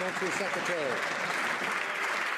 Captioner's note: some Applause